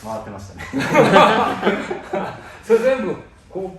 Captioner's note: laughter